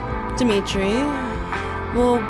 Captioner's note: Jane sighs